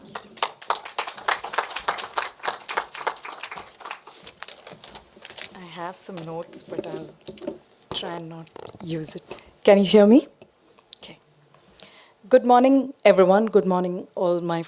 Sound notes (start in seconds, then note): 3.4 applause